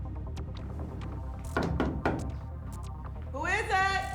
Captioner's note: knocking